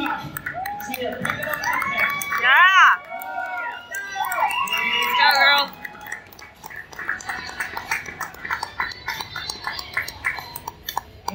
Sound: crowd cheering and clapping

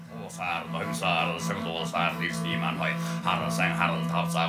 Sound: foreign language

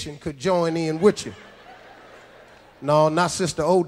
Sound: audience laughs

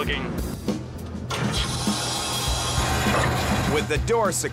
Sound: metal clanging

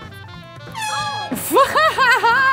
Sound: horn blows; girl laughs

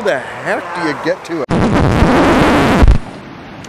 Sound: sound of a record scratching

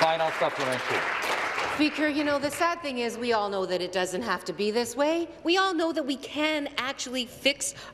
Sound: applause

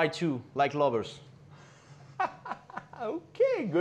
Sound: Ming laughing

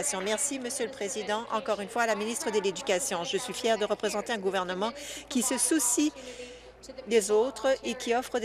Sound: none

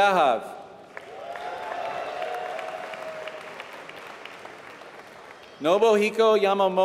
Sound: applause

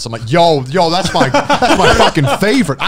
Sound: laughing

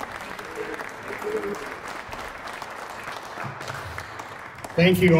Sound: applause

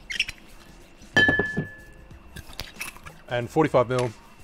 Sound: bottles clank

